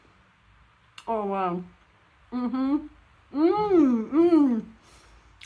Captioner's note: happy mouth noises